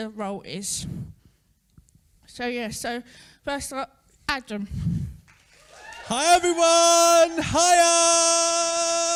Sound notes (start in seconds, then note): 7.7 cheering & Applause